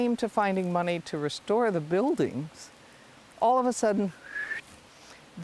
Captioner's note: whistles